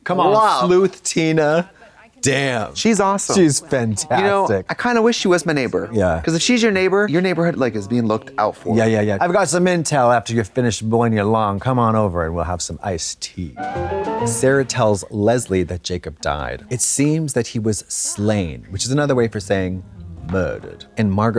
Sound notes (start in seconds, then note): 13.6 bright chime